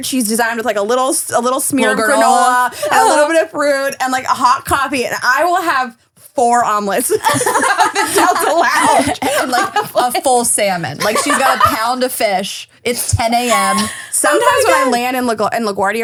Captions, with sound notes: She's designed with like a little, a little smear girl granola and a little bit of fruit and like a hot coffee and I will have four omelets. (laughing) - The Delta lounge and like a full salmon. Like she's got a pound of fish. It's 10:00 AM. - Sometimes when I land in LA and LaGuardia